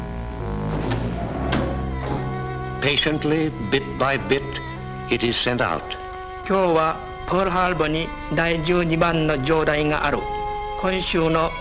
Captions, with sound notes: Patiently, bit by bit, it is sent out. (speaking Japanese)